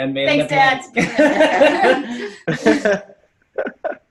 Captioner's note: laughs